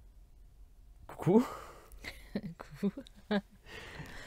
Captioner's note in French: Rires